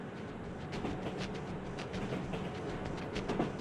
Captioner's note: subway tracks rumbling overhead